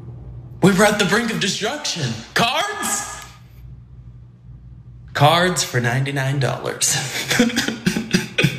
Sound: laugh

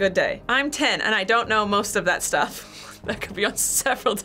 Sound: chuckles

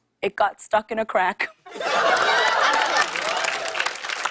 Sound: laughter and applause

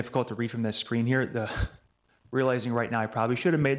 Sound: chuckles

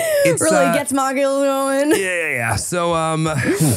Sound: laughing

